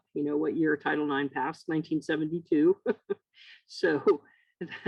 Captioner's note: laughs